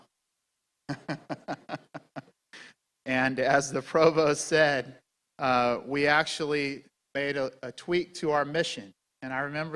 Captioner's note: laughing